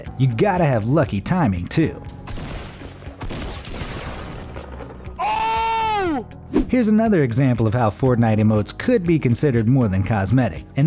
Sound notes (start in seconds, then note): 2.2 gun shooting; 5.3 man grunting